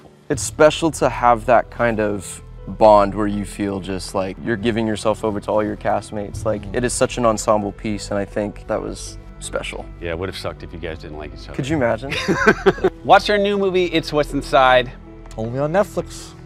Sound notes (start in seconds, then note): 12.1 laughs